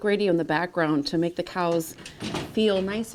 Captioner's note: metal door clanks